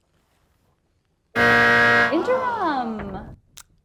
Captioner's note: buzzer